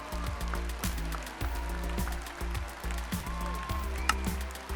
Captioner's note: cheering sound